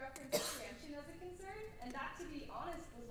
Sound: coughs

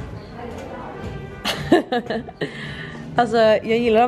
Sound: laughter

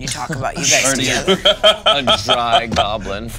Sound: laughing

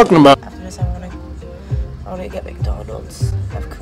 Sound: whispering

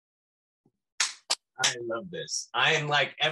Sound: clapping

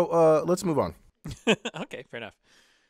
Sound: laugh

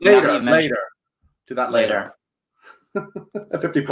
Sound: laughs

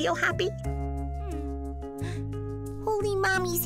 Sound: gasping

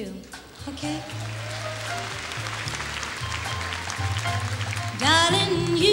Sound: applause

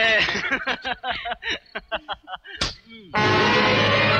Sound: laughing

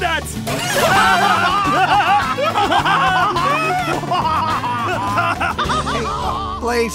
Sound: laughing

